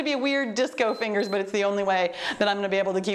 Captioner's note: timer beeps